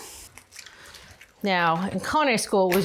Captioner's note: egg cracks